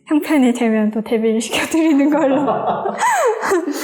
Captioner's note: laugh